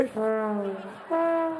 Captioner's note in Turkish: Gülme efekti